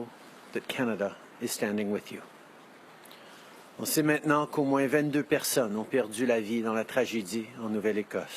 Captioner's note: speaking French